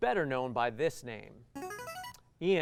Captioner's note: buzzer